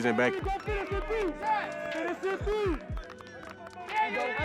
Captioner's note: cheers